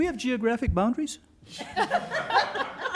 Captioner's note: laughter